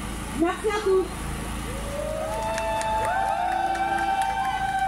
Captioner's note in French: Applaudissements